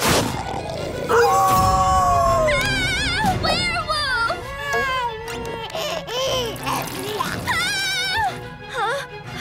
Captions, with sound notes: [howling] [screaming] Werewolf! [giggling] [screaming] Huh? Huh?